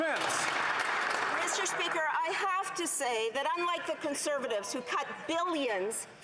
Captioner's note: some Applause